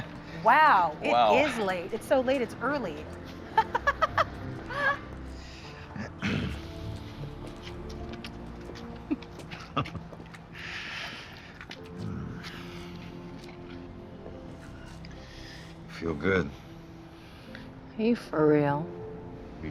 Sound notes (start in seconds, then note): 3.5 laughing; 6.2 clears Throat; 8.8 laugh